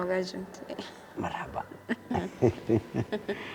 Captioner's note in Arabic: يضحك